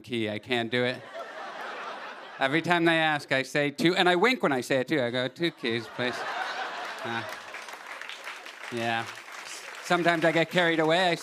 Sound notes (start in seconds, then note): 1.0 laughter; 5.5 laughter and applause